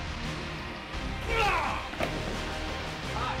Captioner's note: yells